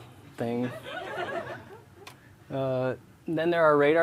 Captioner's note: laughter